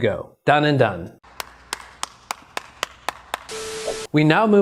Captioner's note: claps; static buzzing